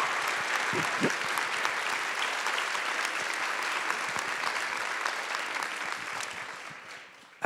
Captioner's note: applause